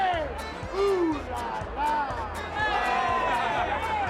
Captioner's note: cheering